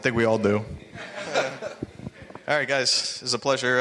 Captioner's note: laughing